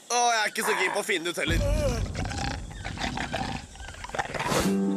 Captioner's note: snarling